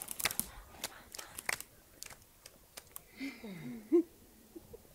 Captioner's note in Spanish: palmas desvaneciendo y risas